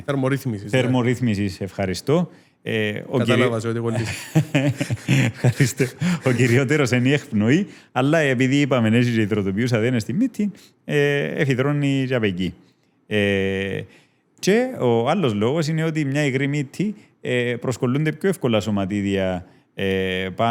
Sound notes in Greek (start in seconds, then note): 3.9 γέλιο